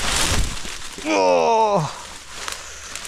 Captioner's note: bushes rustling and crackling